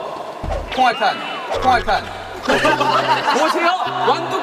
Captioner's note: kekekeke